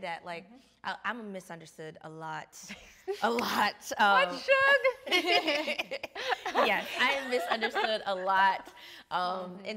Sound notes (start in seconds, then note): 2.9 chuckling; 5.0 all laughing